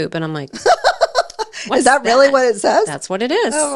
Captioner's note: laughs